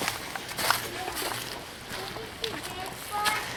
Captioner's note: leaves crunching